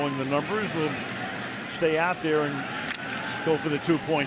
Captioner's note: crowd cheering